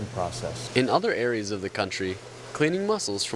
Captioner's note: voiceover